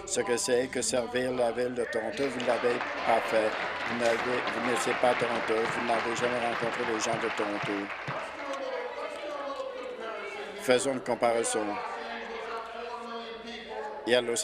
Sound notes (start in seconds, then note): 5.3 applause